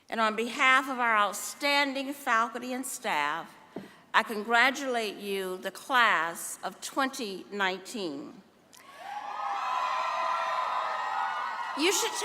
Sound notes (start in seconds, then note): 8.2 applause